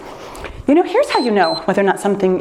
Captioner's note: timer beeps